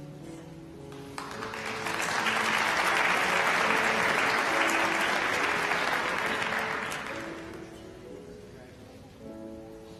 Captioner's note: applause